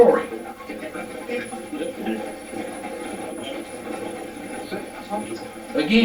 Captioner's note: static playback transmitting